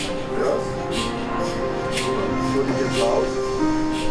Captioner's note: MRI noise